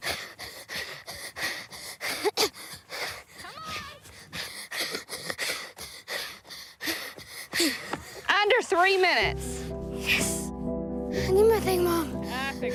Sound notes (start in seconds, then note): 2.0 coughs